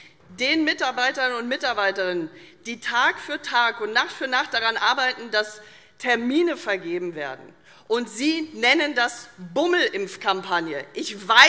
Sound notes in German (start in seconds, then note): none